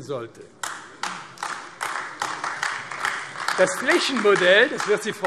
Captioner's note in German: Beifall AfD